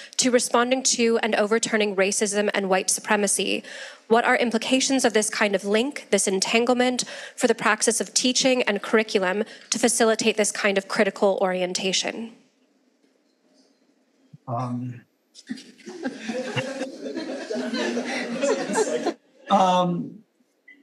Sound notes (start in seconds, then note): 15.4 audience laughing